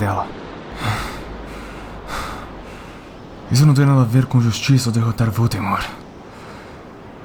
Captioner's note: fighting for breath